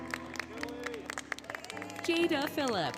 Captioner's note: applause, Cheering, Music